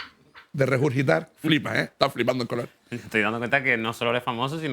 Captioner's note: none